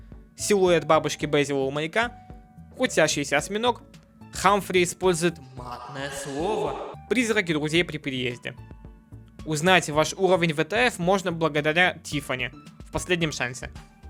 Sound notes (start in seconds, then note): 5.6 shock